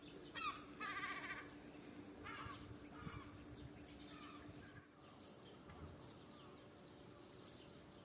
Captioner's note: crows chattering